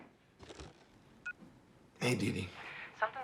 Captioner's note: cell phone beeps